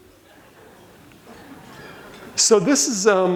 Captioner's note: audience laughs